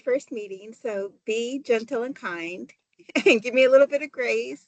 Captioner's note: chuckles